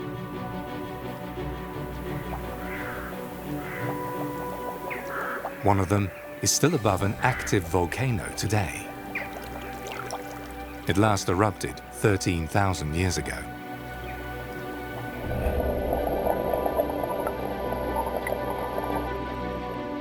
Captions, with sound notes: (upbeat music) One of them is still above an active volcano today. It last erupted 13,000 years ago. (water bubbles)